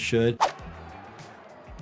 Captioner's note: upbeat music; crowd cheers; transition whooshes